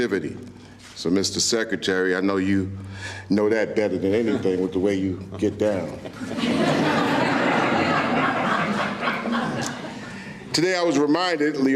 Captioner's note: laughter